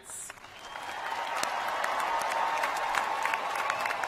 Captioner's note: cheers and applause